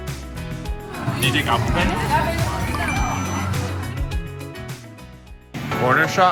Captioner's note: watch chimes